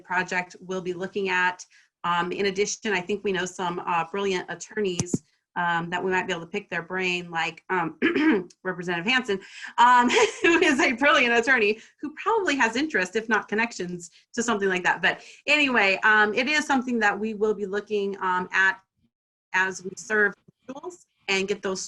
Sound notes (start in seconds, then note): 8.0 cough; 8.2 laughter